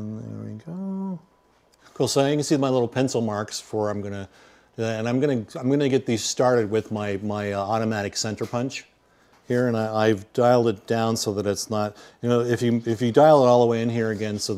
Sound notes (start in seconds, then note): none